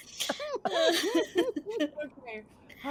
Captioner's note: everyone laughing